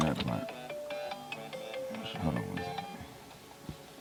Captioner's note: phone ringing